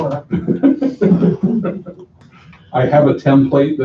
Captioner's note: laughter